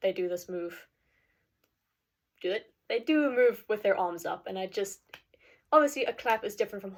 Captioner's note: clap